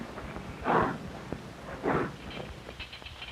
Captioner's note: train noises